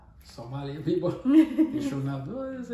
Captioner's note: laughs